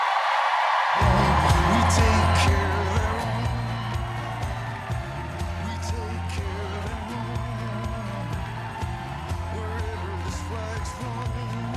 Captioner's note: applause